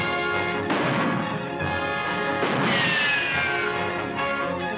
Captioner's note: gunshots